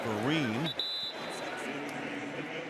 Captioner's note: whistle; pa announcement